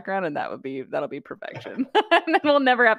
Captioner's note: laughter